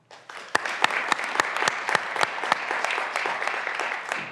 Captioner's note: graduands applauding